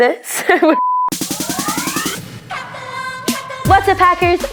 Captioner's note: laughs; TV beeping; upbeat music